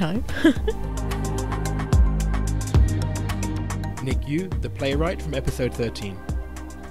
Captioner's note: voiceover